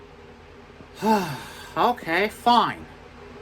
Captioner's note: sighs